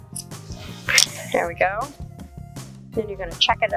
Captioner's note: scissors clattering